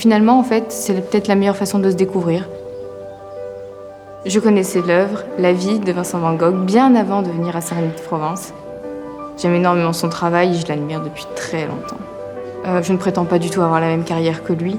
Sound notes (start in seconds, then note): 0.0 light uplifting music; 0.3 speaking in foreign language; 4.3 speaking in foreign language continues